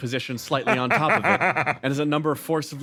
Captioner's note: laugh